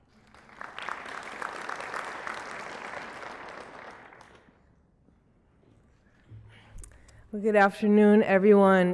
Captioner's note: applause